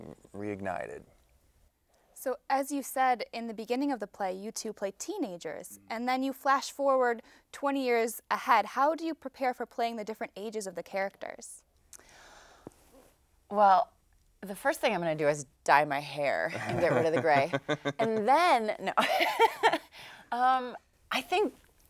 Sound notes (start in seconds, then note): 16.5 laughs